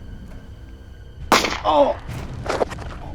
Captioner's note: gunshot